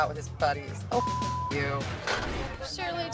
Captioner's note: beep